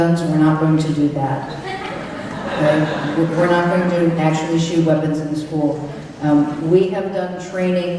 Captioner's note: laughter